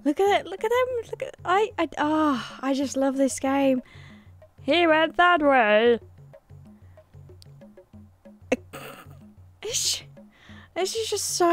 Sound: snickering

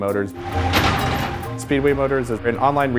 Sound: engine growls

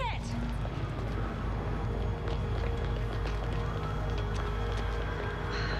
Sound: siren wailing in distance

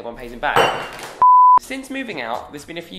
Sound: clank; beep

